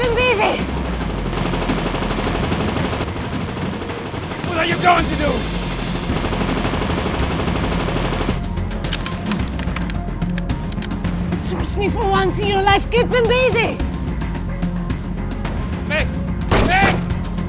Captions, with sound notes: Keep him busy. (gun firing) - What are you going to do? (gun firing) (gun clicking) - Trust me for once your life, keep him busy. (dramatic music) - Meg, Meg.